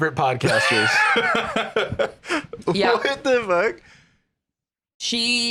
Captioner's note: laughs